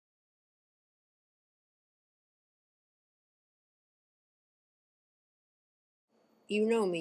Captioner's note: silence